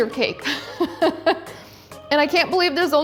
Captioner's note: laughing